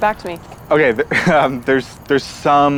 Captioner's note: nervous laugh